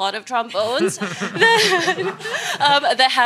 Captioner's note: all laugh